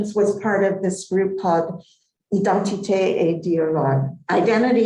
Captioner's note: non-english speech